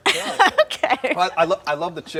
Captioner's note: laughing